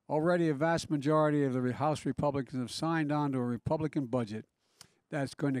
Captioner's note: none